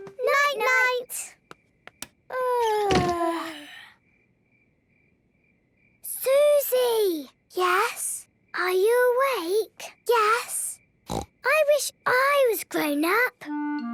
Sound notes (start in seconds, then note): 2.1 light clicks; 3.2 both yawning